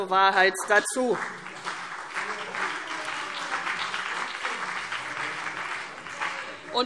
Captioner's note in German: Beifall CDU und BÜNDNIS 90/DIE GRÜNEN